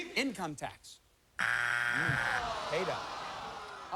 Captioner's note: buzzer